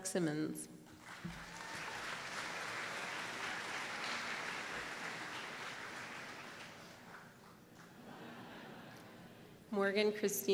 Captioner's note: applause